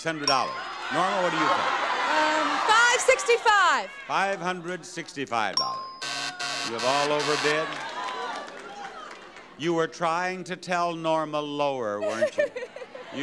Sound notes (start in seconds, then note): 6.0 buzzer buzzing